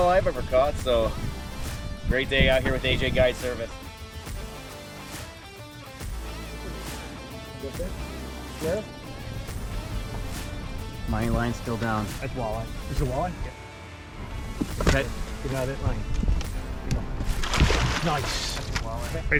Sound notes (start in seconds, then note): 4.0 snappy guitar music; 7.1 crew members speaking softly